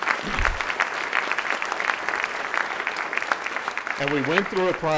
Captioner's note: audience clapping